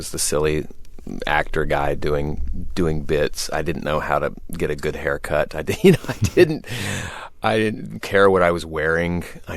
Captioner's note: laughter